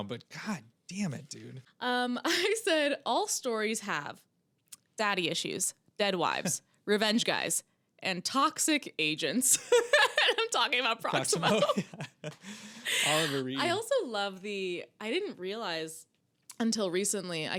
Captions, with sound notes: But god damn it, dude. I said all stories have daddy issues, dead wives, revenge guys, and toxic agents. (laughs) I'm talking about Proximo. Proximo, yeah. I also love the, I didn't realize until recently,